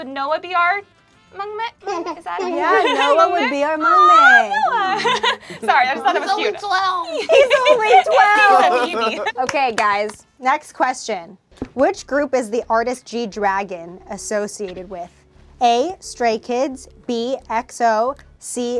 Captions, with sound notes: would Noah be our maknae, is that how you say it? - Yeah, Noah would be our maknae. - Aww, Noah, (laughs) sorry, I just thought that was cute. - He's only 12. - He's only 12. (overlapping chattering) Okay guys, next question. Which group is the artist G-Dragon associated with? A, Stray Kids, B, EXO, C, Big Bang?